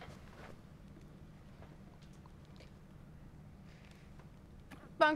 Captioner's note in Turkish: Sessizlik